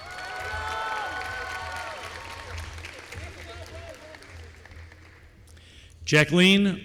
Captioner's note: applause